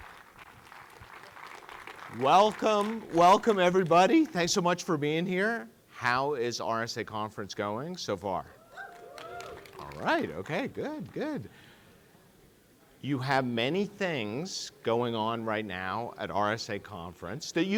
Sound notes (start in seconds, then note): 0.0 audience applauding; 8.6 audience cheering